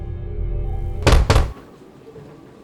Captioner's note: loud banging